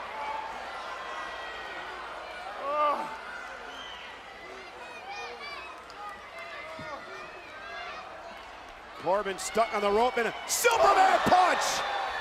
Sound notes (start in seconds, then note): 0.1 crowd shouting; 4.1 crowd shouting; 12.0 crowd shouting